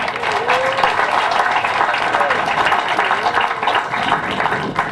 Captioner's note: applause